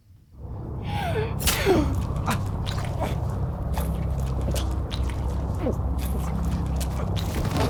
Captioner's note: Brandy gasps; knife stabbed in back